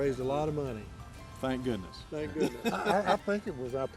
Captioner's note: laughs